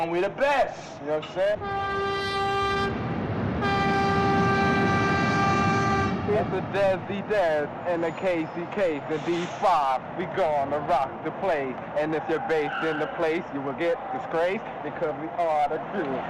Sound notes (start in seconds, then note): 3.6 train whistle blowing